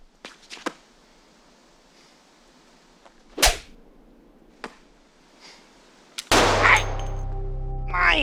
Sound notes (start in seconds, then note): 6.2 gun shots blaring; 7.6 groans and curses in foreign language